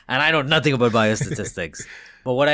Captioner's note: laughing